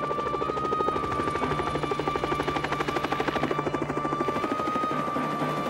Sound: helicopter blades whirring; ominous orchestra music

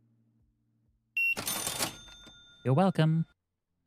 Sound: beeping

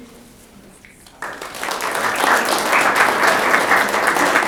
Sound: audience clapping

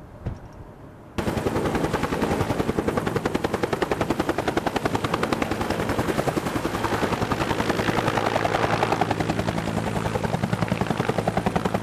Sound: helicopter blades thumping and engine whirring

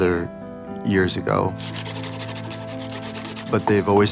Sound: scratching

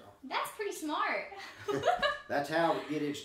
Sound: chuckling

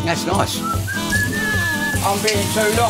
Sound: whistles at sink

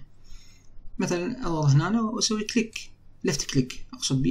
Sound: left click

